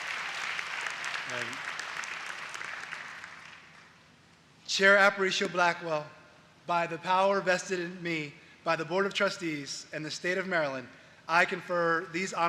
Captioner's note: applause